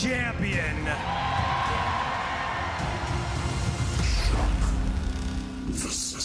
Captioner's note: crowd cheering